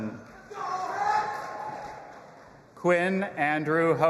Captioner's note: audience applauding and cheering